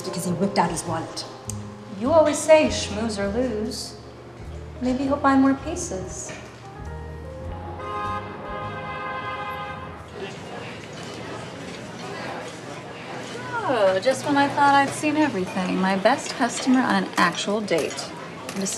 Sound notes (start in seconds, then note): 7.6 cars honking